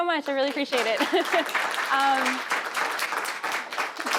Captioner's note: applauding